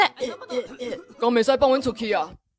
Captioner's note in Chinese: 裝做美少女的聲